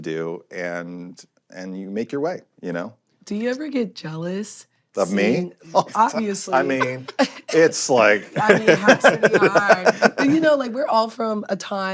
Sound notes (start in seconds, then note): 5.7 laughing; 6.5 chuckles